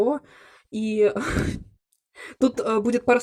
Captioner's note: giggle